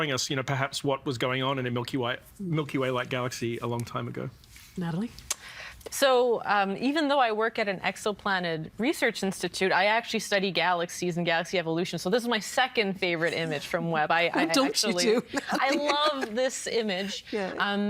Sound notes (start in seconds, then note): 14.9 laughing